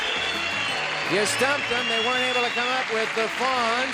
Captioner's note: cheering and applause